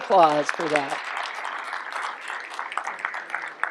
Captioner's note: applause